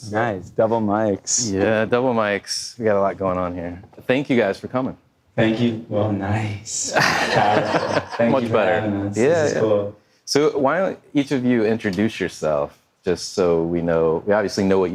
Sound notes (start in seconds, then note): 7.0 audience laughing